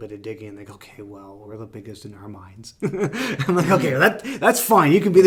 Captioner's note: laughs